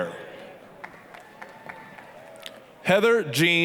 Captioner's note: applause, cheering